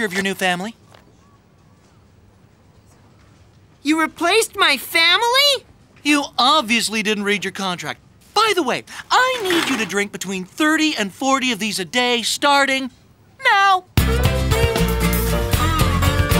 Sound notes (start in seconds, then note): none